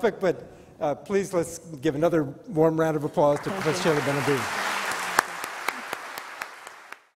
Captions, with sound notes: But please let's give another warm round of applause to Professor Seyla Benhabib. (applause)